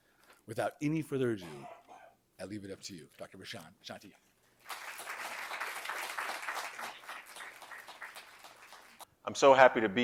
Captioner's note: applause